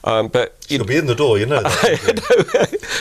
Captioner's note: laughing